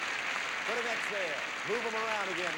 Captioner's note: audience applauding